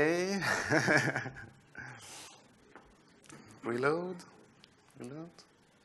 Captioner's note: laughs